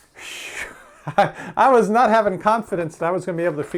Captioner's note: laughs